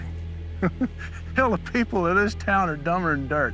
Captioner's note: chuckling